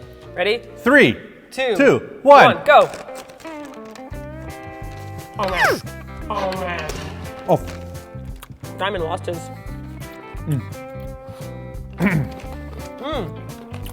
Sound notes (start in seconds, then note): 11.9 cough